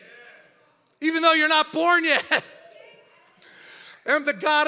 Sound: laughs

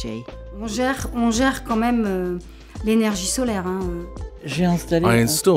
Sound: speaking in foreign language

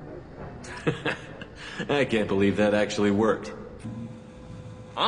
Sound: laughs

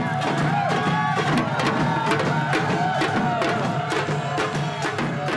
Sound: crowd cheering; drumming continues

